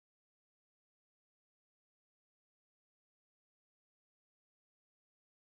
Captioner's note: none